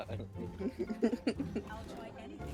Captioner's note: laughing